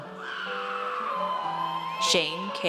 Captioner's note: audience cheers